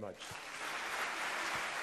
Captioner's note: applause